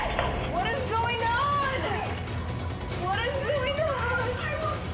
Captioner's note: crying